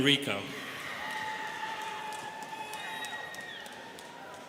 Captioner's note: students cheering